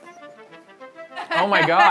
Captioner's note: laughter